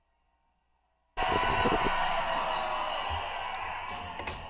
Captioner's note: people cheering